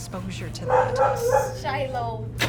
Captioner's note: dog barking